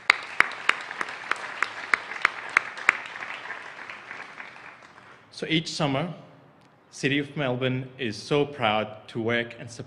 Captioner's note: applause